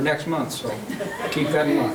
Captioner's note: laughing